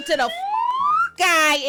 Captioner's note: beep